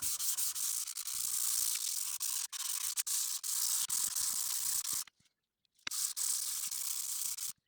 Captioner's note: sanding Noises